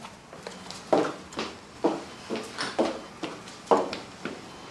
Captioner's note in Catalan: pip-pip-pip-pip